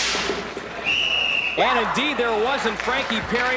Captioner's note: whistle blowing